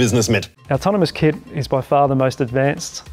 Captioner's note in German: englisch